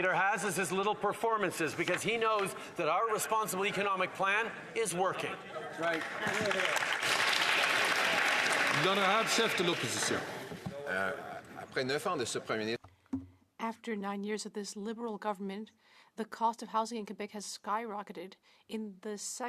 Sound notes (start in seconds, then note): 9.0 some Applause